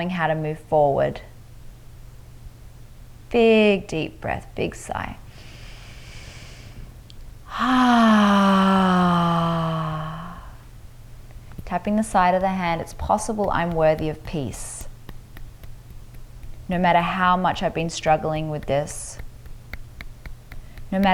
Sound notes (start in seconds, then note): 5.3 inhales deeply; 7.4 exhales deeply; 14.8 fingers tapping lightly